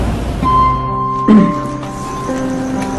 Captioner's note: clears throat